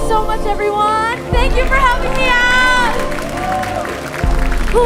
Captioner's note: audience applauding